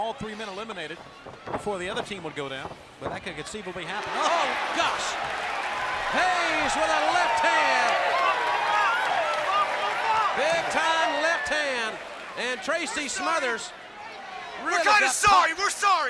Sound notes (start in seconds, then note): 8.2 crowd cheering; 10.6 crowd chatter